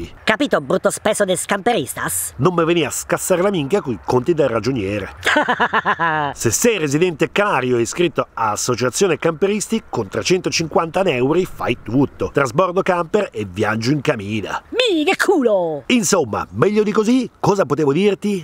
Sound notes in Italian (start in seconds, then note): 4.9 Ahahahaha